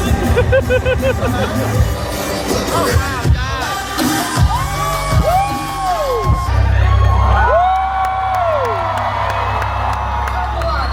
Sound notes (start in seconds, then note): 0.1 laughing; 2.9 energetic music; 4.2 guests cheering; 7.2 guests cheer and clap